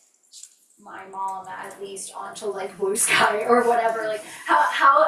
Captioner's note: laughs